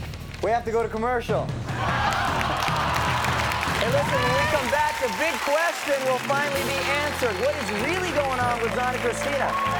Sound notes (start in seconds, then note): 1.5 everyone laughs and applauds